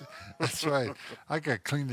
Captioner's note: laughs